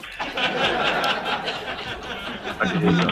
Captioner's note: laughter